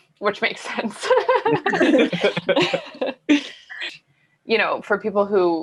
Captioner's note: all laughing